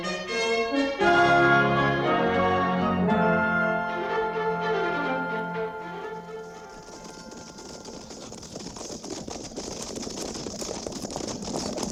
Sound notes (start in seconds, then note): 4.6 dramatic music; 6.3 fire crackling